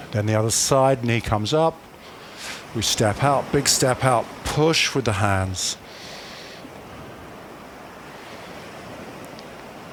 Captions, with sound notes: Then the other side, knee comes up, we step out, big step out, push with the hands. [breathing]